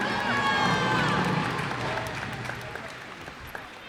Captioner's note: cheers and applause